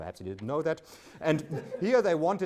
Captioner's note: audience laughs